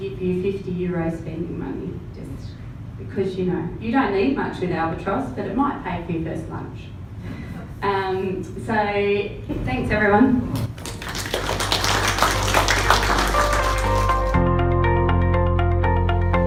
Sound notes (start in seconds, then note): 10.6 audience claps; 13.6 upbeat music